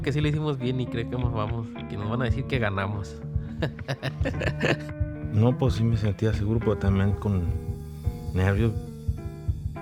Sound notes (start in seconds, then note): 3.5 laughs